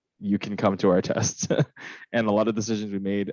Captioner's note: laughs